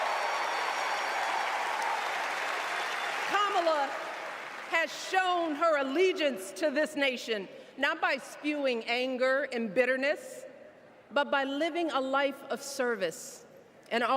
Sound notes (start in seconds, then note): 2.2 cheers and applause